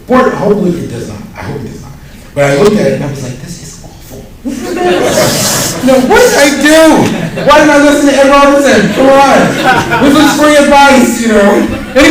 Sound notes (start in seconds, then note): 4.4 laughter